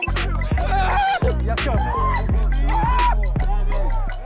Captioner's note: player shouts